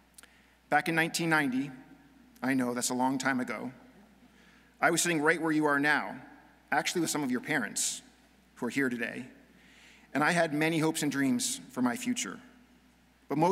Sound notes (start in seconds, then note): none